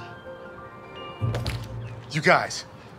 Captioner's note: tail thudding